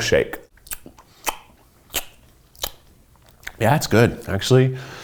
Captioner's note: smacking